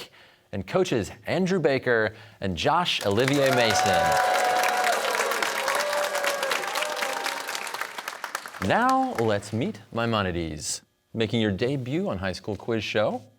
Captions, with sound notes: and coaches Andrew Baker and Josh Olivier-Mason. (cheers and applause) Now, let's meet Maimonides. Making your debut on "High School Quiz Show."